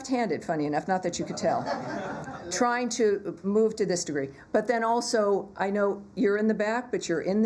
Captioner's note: laughter